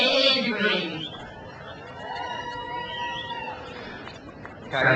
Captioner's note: crowd cheers